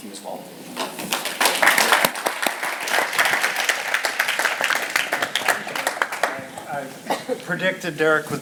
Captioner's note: applause